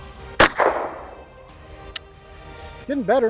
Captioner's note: gunshot